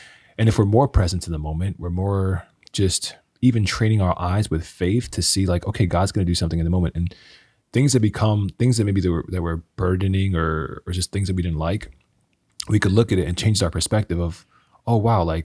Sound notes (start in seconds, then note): none